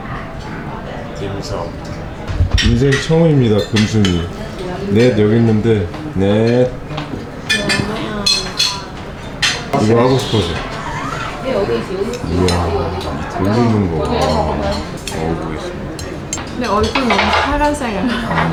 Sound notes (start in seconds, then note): 7.6 laughing